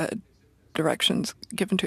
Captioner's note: speaking French